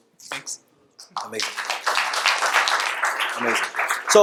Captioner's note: audience applauds